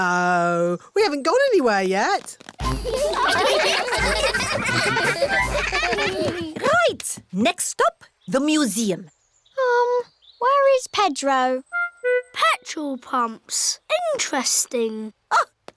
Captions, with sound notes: No, we haven't gone anywhere yet. (LAUGHTER) Right, next stop, the museum. Um, where is Pedro? Petrol pumps. Interesting.